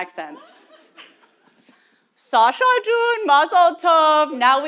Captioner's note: laugh